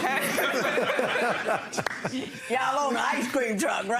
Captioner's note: laughing; laughs